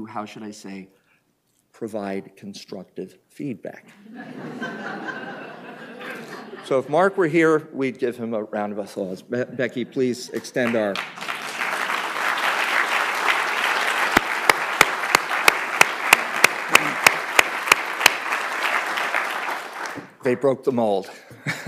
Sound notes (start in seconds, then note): 4.0 laughter; 11.9 applause